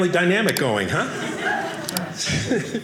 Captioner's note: audience laughing